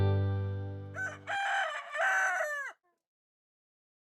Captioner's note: rooster crows